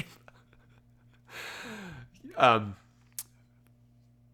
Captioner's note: laughs